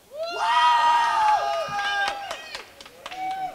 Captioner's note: crowd cheering